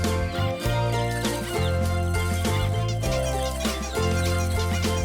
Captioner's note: plinking noises